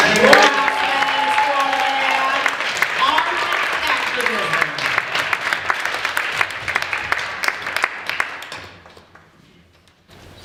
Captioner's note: applause